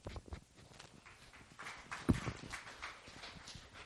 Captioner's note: applause